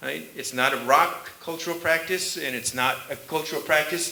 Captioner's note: none